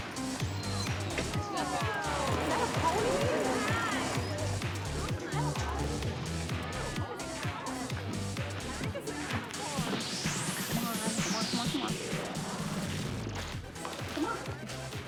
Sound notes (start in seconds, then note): 2.4 children chattering